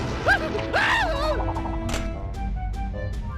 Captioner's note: screaming